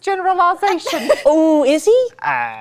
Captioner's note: laughs